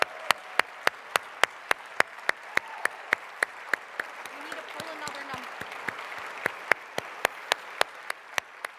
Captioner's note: applause